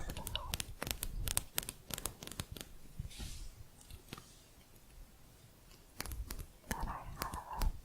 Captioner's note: quick tapping